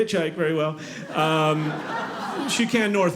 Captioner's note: audience laughing